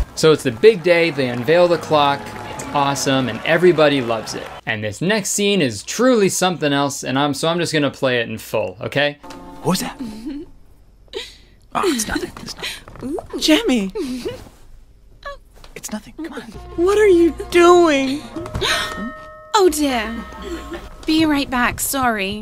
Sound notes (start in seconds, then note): 10.0 giggling; 13.8 giggling; 18.6 gasping